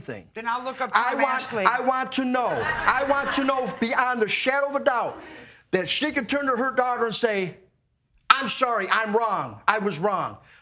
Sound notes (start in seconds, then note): 2.2 audience laughing